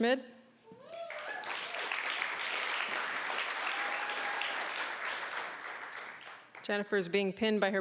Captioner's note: applause